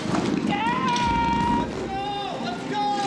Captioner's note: shouting